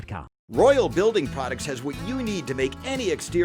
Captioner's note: voiceover